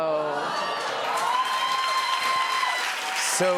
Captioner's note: cheers and applause